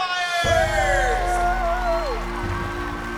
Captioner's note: cheering